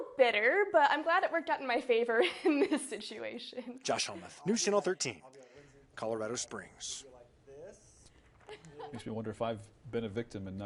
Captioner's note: laughs